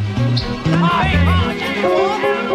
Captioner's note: indistinct shouting